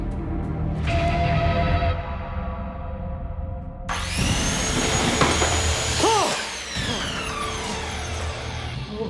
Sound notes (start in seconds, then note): 3.9 saw whirls; 6.0 yells out and gasps